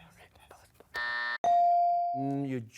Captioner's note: buzzer